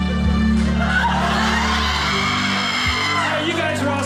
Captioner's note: audience cheering